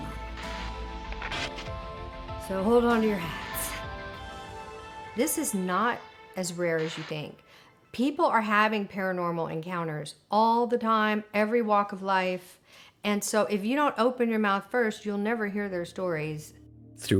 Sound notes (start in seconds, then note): 0.0 energetic suspenseful music continues; 0.0 radio static hissing